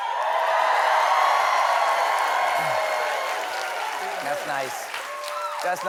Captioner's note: cheers and applause